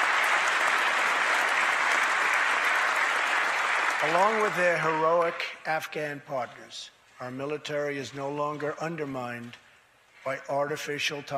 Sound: applause

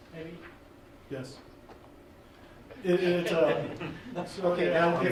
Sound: laughing

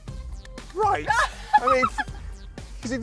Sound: laughter

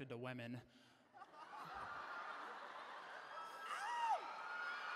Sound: laughter

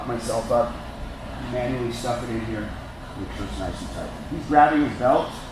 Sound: low voice

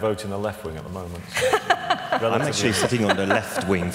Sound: laughter from VC

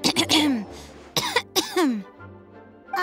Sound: cough

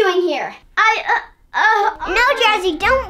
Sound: Jester stammers

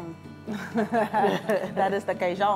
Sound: all laugh

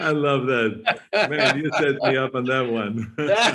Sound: Arnold laughs

